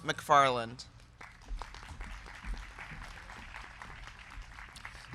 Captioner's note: crowd clapping